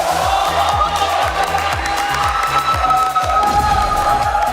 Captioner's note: clapping